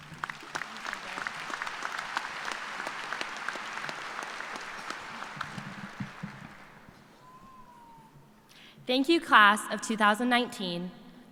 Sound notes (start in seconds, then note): 2.0 applause